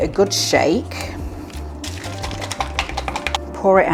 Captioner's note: gloopy shaking